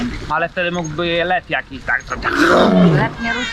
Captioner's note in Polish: rawr